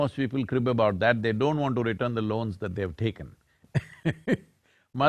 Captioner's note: laughs